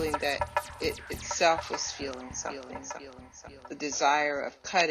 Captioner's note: echoes